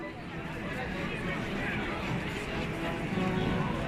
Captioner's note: crowded noice